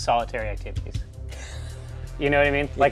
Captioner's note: hushed laugh